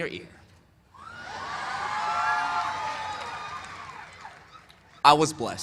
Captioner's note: cheers and applause